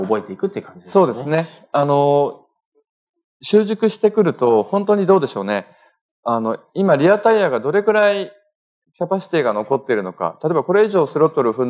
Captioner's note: speaking japanese